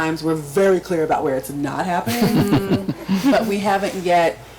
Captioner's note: group laughs